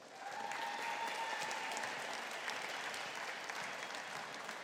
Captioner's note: audience applauding